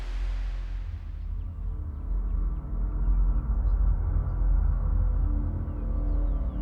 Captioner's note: atmospheric music; birds chirping